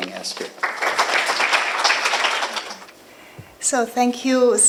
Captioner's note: applause